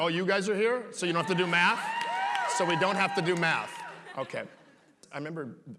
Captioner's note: applause